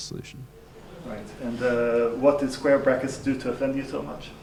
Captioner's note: voiceover